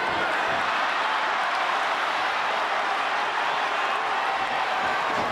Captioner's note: audience cheers